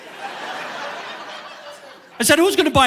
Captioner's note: audience laughing